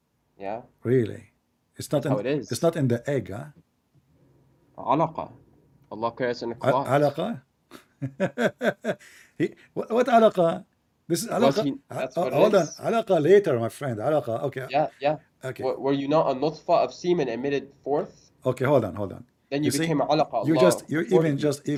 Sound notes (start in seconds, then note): 7.7 Ketawa